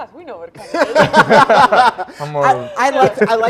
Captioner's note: group laughing